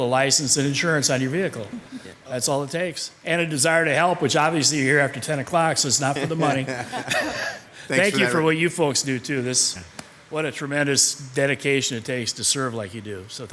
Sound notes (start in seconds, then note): 5.9 laughing